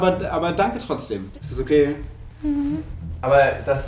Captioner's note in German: traurig